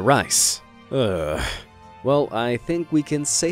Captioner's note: sighing